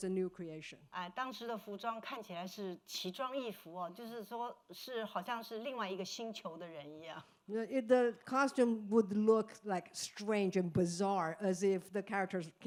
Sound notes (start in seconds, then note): 2.5 speaking Mandarin